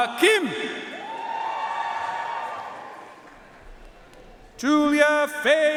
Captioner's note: audience cheering and applauding